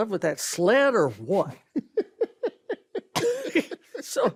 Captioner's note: ben laughs; carol chuckles